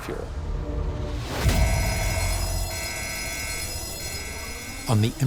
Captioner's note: alarms blaring and ringing